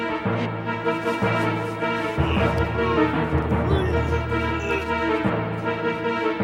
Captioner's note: intense music; Sean groaning